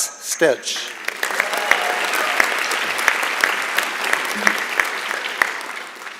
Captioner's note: applause and Cheering